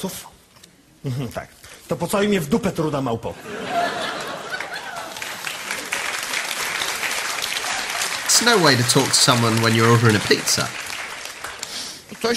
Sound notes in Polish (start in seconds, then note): 4.2 Aplauz